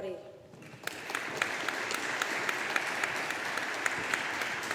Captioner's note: audience applauding